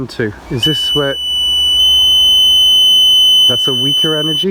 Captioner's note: beeping